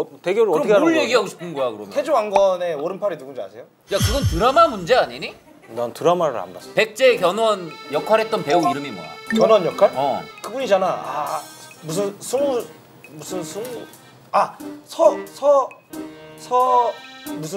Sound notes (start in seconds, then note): none